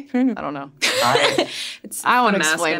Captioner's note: laughs